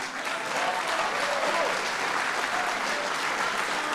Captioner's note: applause